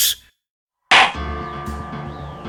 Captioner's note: gavel slams!